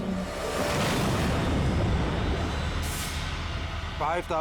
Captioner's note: crane booming